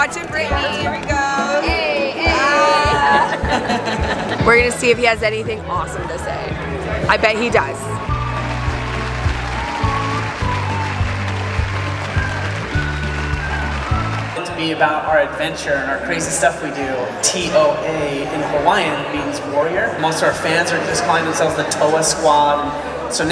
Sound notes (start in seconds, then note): 2.5 laughing; 7.9 applause